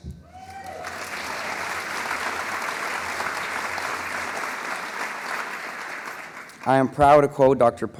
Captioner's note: applause